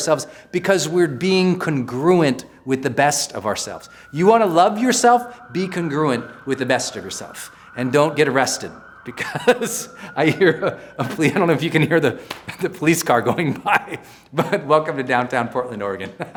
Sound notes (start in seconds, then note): 7.3 police sirens ring